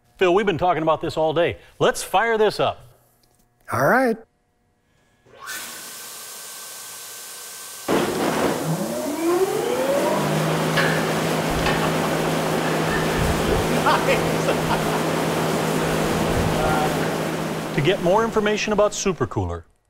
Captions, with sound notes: Phill, we've been talking about this all day. Let's fire this up! Alright! [the sounds of SuperCooler's powerful cooling air] [laughing] Nice! [laughing] To get more information about SuperCooler,